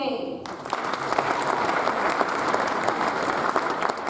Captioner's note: audience applauds